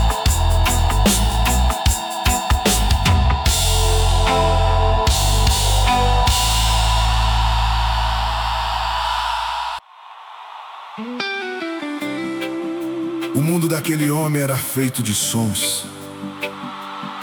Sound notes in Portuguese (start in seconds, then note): 6.8 grito; 7.2 aplausos